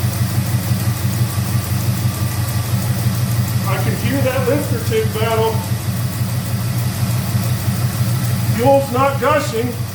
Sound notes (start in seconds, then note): 0.0 engine starts & idles; 5.9 engine idling